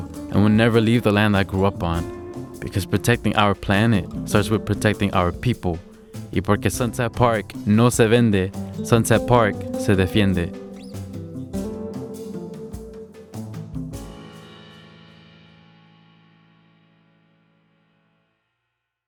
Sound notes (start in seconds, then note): 6.4 speaks Spanish; 11.2 jazz music